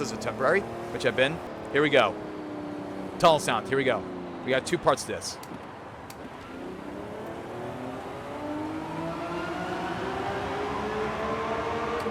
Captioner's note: tunnel sound 1